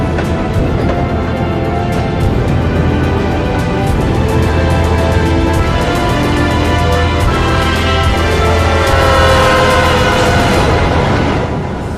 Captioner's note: train chugging